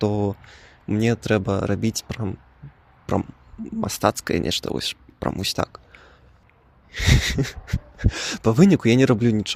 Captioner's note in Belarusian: нервовы смех